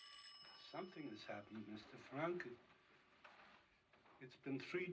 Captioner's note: ringing Continues; ringing Stops